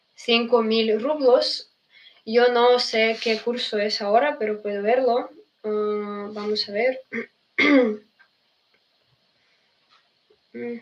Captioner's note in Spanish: carraspeo